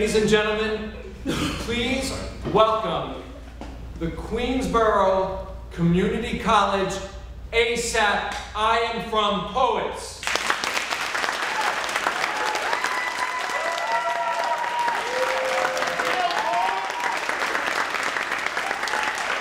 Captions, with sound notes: Ladies and gentlemen please welcome the Queensborough Community College ASAP, I Am From Poets! (cheering and applauding)